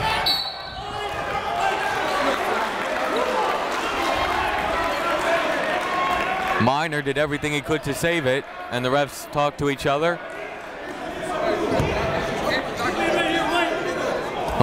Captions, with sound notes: (whistle) (clapping) Miner did everything he could to save it and the refs talk to each other. (chatter)